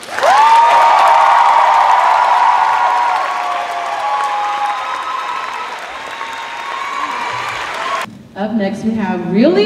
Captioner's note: cheers and applause